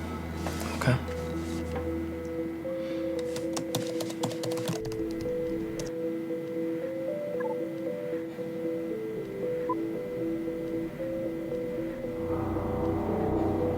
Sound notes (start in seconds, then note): 3.1 keyboard tapping; 7.5 computer beeps; 10.3 tense music continues